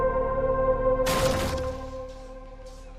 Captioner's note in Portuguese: porta sendo arrombada